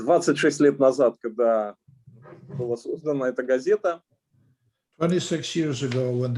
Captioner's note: speaking Russian language